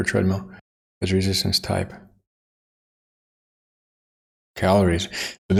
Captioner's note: silence